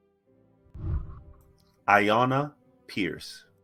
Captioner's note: whooshing